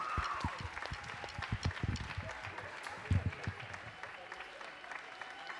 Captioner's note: audience cheering; audience applauding